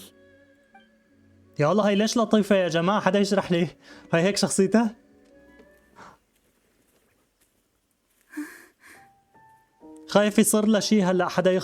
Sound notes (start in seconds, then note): 0.2 gentle music; 2.8 sighs